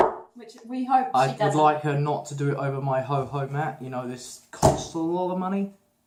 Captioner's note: placing his hands loudly on the table